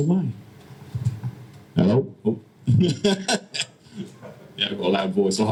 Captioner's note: laughs